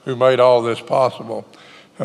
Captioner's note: none